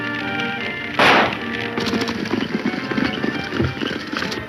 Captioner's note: fire crackles